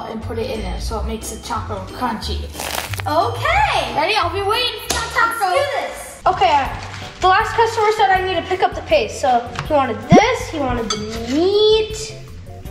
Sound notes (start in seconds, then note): 2.6 crunching